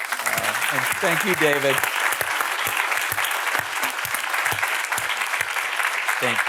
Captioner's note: audience applauding